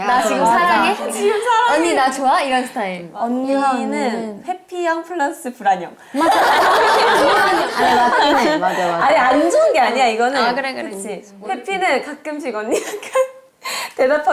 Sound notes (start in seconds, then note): 6.3 cracking up